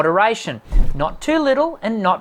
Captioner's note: wooshing